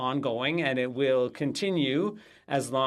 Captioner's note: speaking French